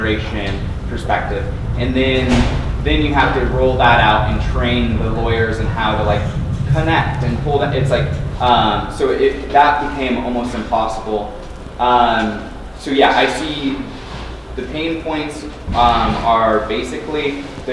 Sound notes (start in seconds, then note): none